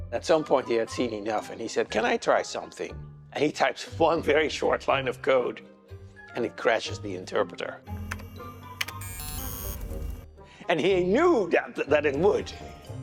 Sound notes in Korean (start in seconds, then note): 8.7 타자 소리; 8.9 경고음